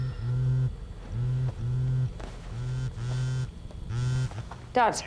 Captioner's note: phone vibrating